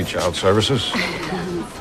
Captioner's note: chuckles